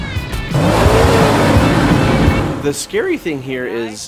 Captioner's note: engine roars